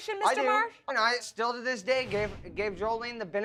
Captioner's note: stammering